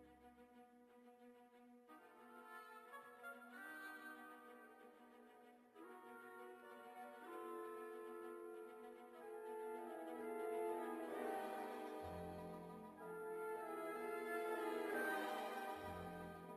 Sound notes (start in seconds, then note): none